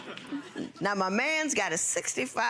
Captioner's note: audience laughing